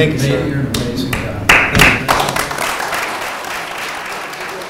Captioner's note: applause